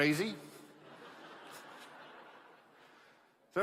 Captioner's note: laughter